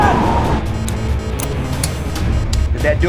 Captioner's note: alarms beeping